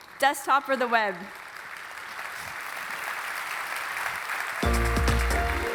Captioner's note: applause